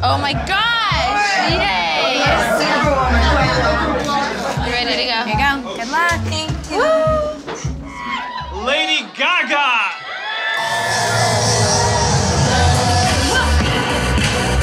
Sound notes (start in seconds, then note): 7.8 crowd cheering